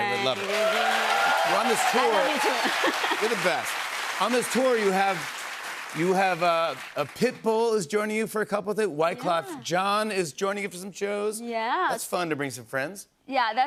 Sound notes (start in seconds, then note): 0.9 cheers and applause; 2.1 laughs